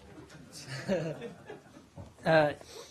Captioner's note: laughter